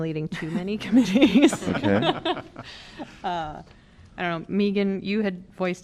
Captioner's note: laughter